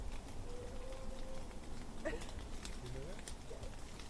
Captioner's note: fire crackling; creature howls